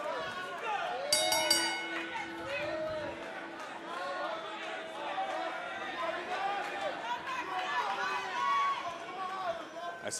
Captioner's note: bell ringing; cheers and applause